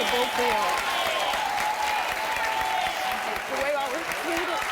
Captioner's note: audience cheering